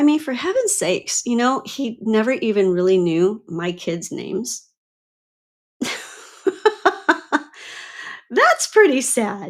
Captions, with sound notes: mean, for heaven's sakes, he never even really knew my kids' names. (laughs) That's pretty sad.